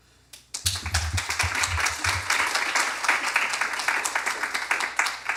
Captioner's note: applause